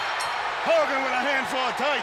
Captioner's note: bell ringing